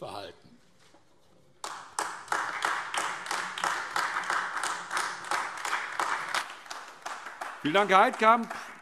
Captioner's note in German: Beifall AfD